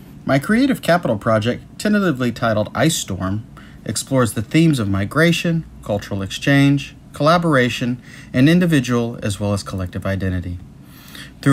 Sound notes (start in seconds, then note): none